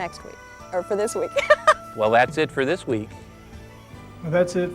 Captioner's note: laughter